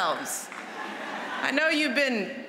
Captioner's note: laughter